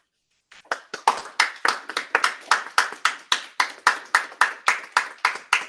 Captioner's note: appluse